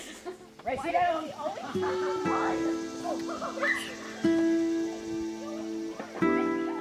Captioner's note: sounds of running; guitar music